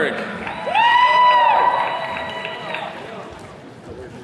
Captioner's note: attendees cheering